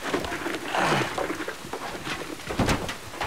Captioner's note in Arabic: آهات